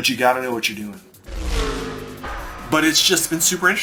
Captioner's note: car engine roaring